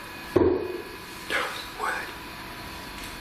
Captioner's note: bang